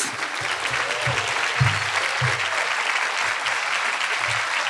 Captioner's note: audience applauding